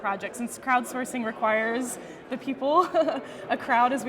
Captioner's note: laughing